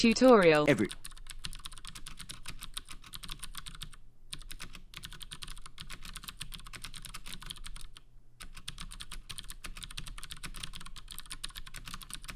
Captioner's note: typing sounds